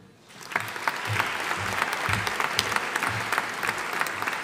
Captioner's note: audience applauding